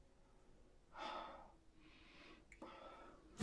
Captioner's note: sighing